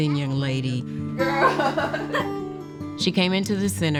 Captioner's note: laughs